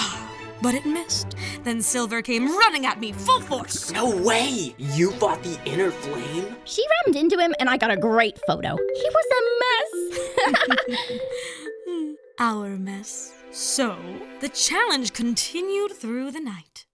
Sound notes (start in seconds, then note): 10.1 Cabby and Bot chuckle